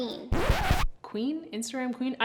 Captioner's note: record scratching